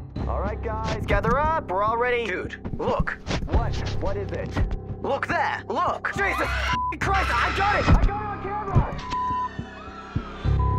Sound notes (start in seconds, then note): 7.1 students screaming; 9.2 students screaming